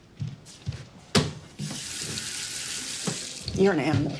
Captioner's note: thud, water running